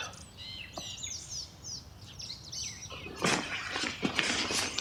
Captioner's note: birds chirping